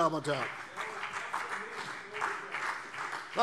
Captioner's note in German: Beifall CDU und BÜNDNIS 90/DIE GRÜNEN